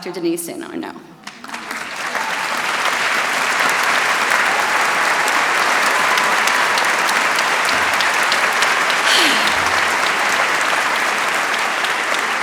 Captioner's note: applause